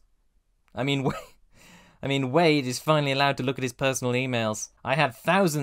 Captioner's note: wheeze